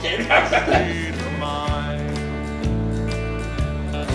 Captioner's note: Jake laughing